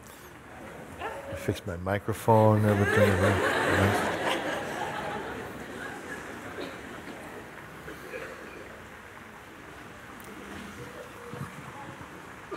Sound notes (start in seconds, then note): 6.2 laughter